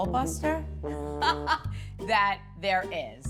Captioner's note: laughs